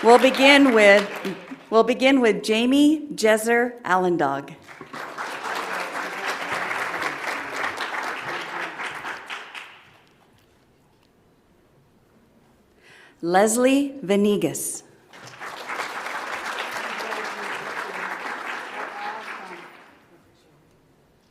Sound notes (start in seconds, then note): 4.6 audience applauds; 15.1 audience applauds